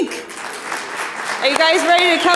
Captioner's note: audience applauding